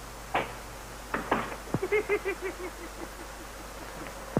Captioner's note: Perkins giggling